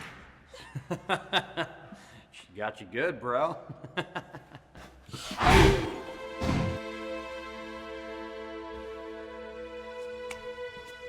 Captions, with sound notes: - (laughing) She got you good, bro. (laughing) (Gavin grunting) (tense music)